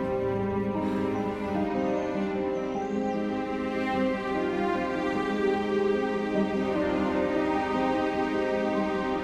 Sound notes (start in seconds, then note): 0.9 sighs